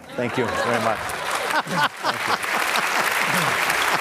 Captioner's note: Laughter